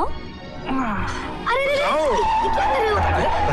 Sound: brakes squeal

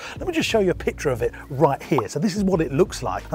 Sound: popping sound

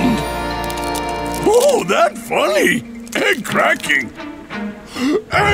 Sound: gasping

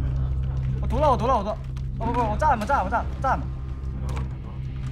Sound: shouting on headset

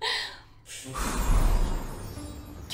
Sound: magical sound

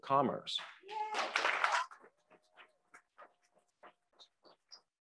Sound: crowd applauds

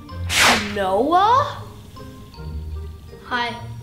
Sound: air whooshing

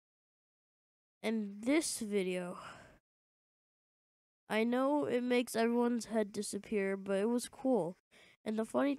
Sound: sigh

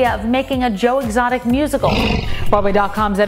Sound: tiger roars

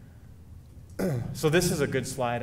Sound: clearing throat

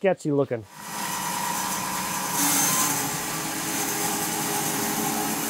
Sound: bandsaw mill whirring

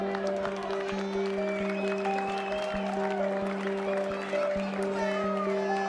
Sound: clapping and cheering

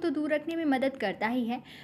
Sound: hindi

